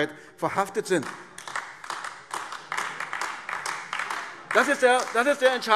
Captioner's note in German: Beifall AfD